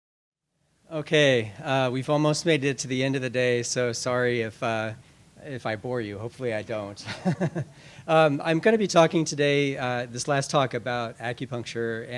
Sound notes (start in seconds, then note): 7.0 laughs